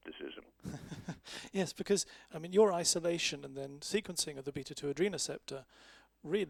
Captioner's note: laughs